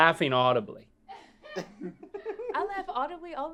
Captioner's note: laughs